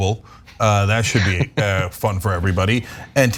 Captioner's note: laugh